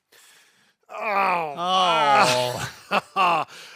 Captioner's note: both groaning; laughing